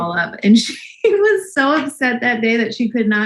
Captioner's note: laughs